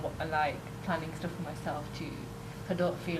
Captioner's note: none